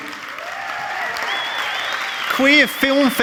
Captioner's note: audience applauding and cheering